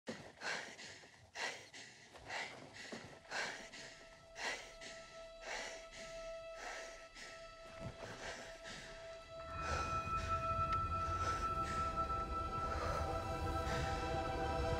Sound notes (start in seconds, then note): 0.1 panting; 5.8 gentle music; 9.0 panting